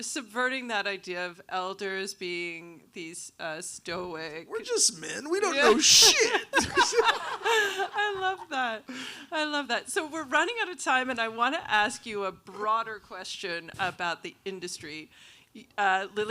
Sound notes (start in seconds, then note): 5.2 all laughing